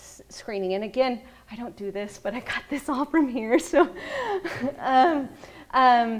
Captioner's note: laughs